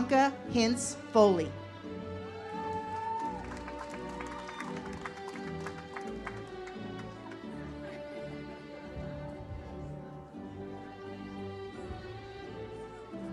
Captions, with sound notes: Bianca Hinz-Foley. (audience applauds) (uplifting music)